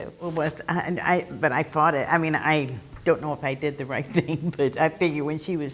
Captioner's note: laugh